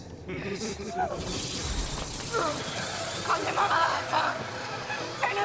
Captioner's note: screams and babbles incoherently